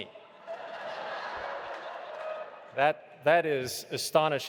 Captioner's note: audience laughing